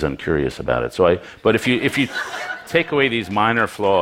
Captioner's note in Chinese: Laughter; 笑聲